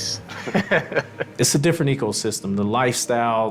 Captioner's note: people laughing